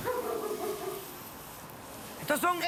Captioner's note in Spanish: ladridos